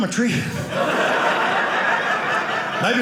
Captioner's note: audience laughing